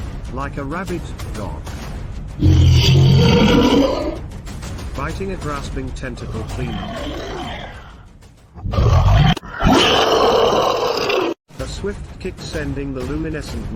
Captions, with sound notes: Like a Rabid Dog ! Biting a Grasping Tentacle Clean Off ! [Monster Roar] A Swift Kick Sending The Luminescent Monster